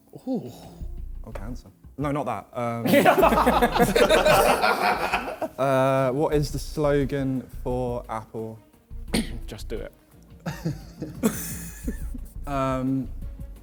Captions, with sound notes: - Ooh. - No not that. (men laughing) What is the slogan for Apple? - Just do it. (men laughing)